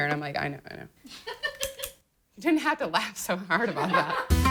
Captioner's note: laughter